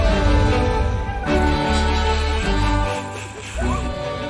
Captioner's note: snickering; siren chirping